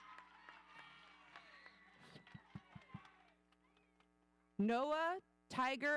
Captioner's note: audience applauding; audience cheering